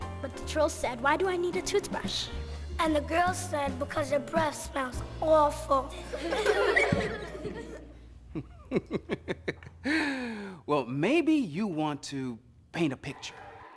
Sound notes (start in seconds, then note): 5.9 children laughing; 8.3 chuckling